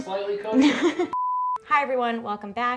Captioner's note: laughs